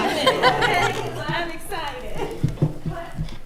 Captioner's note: attendees laughing